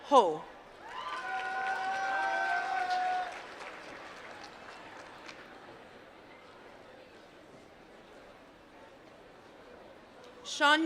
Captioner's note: applause